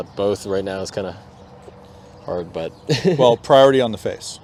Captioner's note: laugh